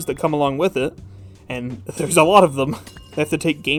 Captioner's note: laughing